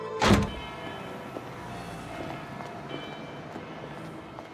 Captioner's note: church bells ringing far off